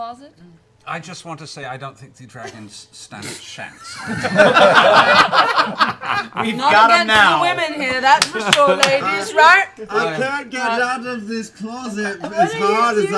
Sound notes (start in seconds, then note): 3.8 laughter